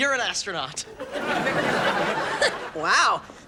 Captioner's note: audience laughs